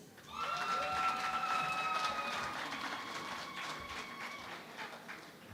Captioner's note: cheering and Applause